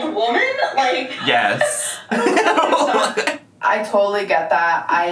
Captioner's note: laughs